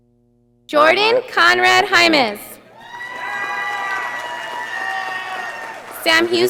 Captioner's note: audience applauding